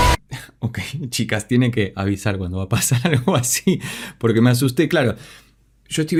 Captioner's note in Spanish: risas